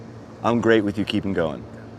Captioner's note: none